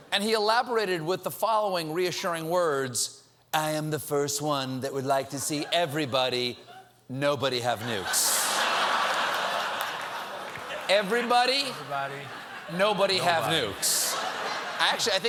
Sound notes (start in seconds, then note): 5.5 applause; 5.5 laughter